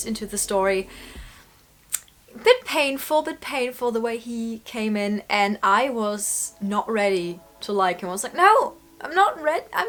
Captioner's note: clicks tongue